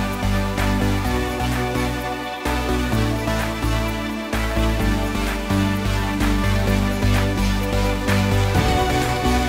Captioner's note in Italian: Applauso